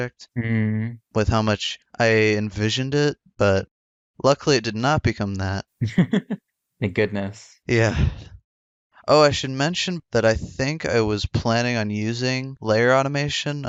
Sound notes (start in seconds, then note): 0.0 laughs; 5.8 laughs